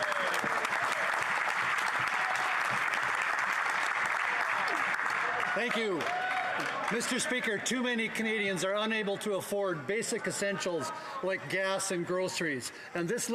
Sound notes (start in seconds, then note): 2.8 some Applause